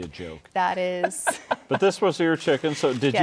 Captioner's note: laughing